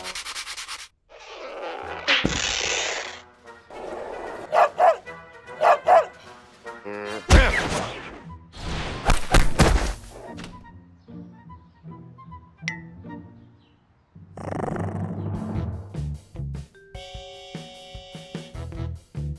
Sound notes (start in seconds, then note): 4.4 barking; 14.3 growls